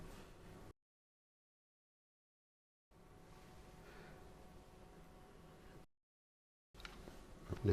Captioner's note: silence